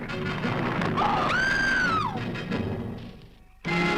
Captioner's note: screaming; dramatic instrumental music